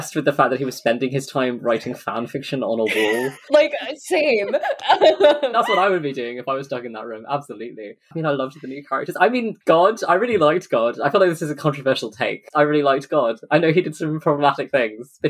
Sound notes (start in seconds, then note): 2.8 laughing